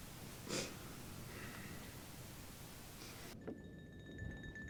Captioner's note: sighs; suspenseful music